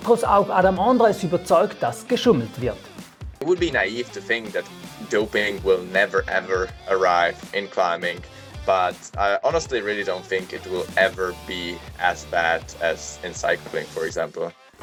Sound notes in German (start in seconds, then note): 3.4 fremdsprache 00:00:25